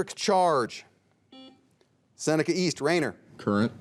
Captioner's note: buzzer dings